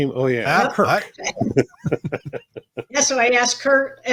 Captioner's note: laughs